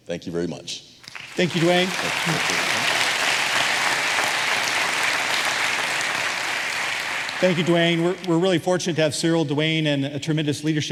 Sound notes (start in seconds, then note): 7.3 applause